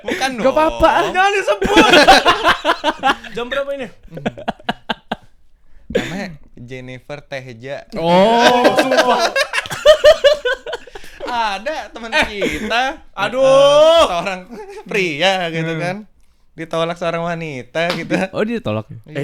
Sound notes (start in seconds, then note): 13.3 audibly crying